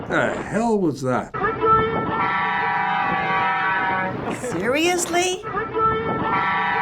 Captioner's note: truck beeping horn; truck beeping horn